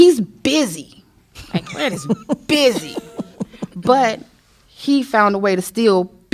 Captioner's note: laughter